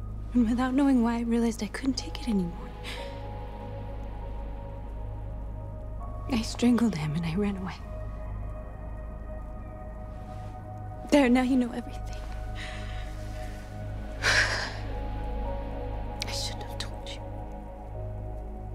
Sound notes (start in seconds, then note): 11.3 tearful; 14.2 shaky sigh